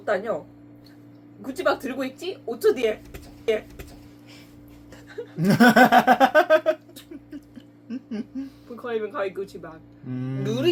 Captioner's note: laughs